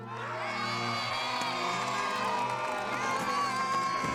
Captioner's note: audience applauds